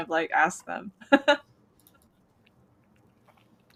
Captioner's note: laughs